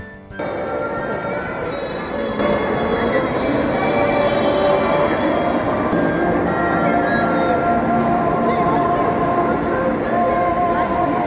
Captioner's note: penguins singing